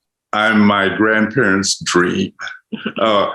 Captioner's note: chuckles